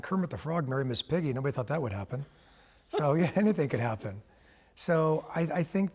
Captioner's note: laughter